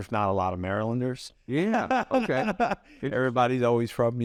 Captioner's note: laughs